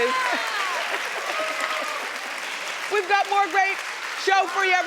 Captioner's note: audience applauding